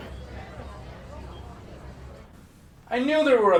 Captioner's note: people chattering